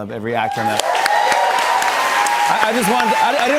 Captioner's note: cheers and applause